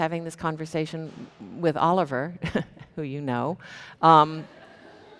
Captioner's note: chuckles